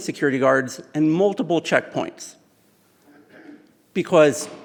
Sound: clears throat

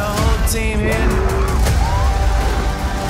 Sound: roars

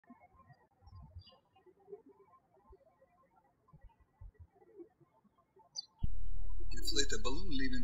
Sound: birds chirping

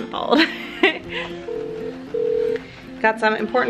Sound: laughs; phone toy rings

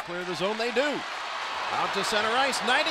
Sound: crowd cheers

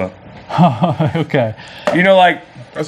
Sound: laughs

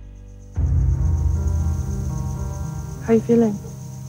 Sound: crickets chirp

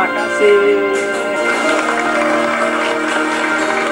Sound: applause

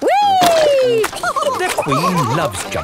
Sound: all laughing

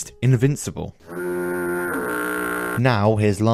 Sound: foghorn

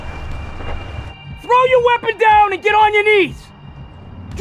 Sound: tires screeching

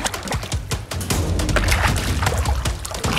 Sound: suspenseful music; splashing

